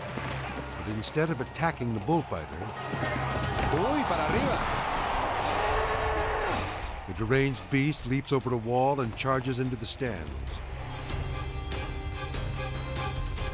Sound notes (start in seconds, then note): 2.7 bull galloping; 3.9 onlooker speaking in Spanish; 4.9 crowd roaring; 10.2 dramatic music